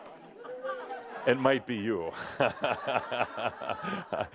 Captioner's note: laughter